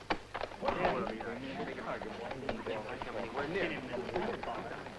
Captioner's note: angry murmuring